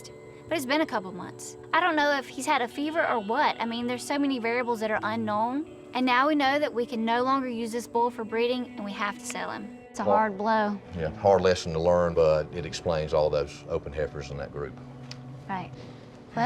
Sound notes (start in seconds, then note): none